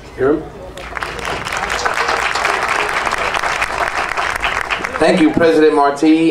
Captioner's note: audience applauding